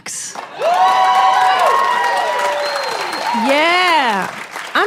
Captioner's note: audience applauding